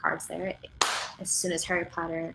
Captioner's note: claps hands